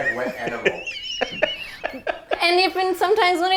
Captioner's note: laughing